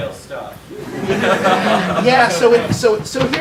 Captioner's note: audience laughs